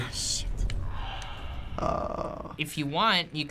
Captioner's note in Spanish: Clicker gruñendo